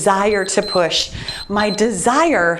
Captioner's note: timer beeps